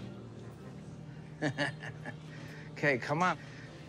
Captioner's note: laughs